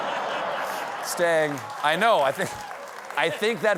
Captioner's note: laughter